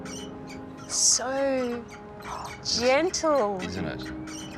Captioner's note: gasps